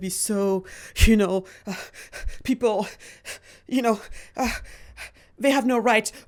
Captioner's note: panting